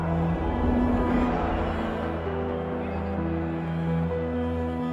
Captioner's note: shouting